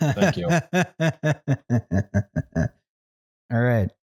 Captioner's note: laughs